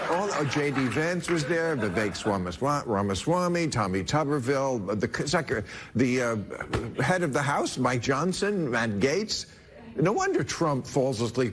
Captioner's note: laughter